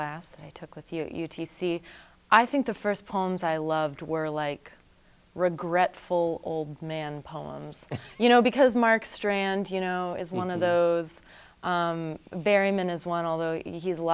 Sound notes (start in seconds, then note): 7.9 chuckles